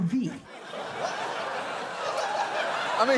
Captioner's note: audience laughs